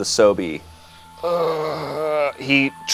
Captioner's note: groans